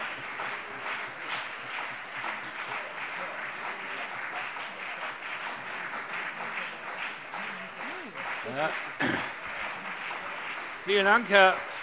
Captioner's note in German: Lang anhaltender Beifall CDU und BÜNDNIS 90/DIE GRÜNEN